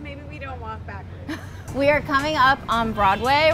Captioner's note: laughing